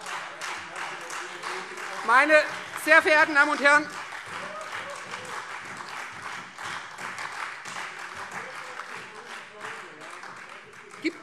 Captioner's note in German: Beifall Freie Demokraten und vereinzelt SPD